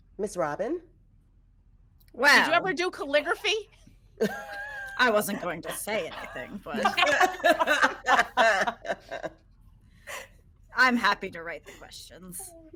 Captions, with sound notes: - Miss Robin? - Well. - Did you ever do calligraphy? (people chuckling) - I wasn't going to say anything, but... (people laughing) I'm happy to write the questions.